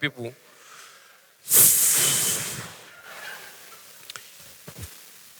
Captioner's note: sigh